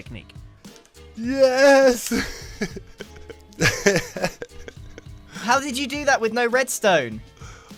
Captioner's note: laughs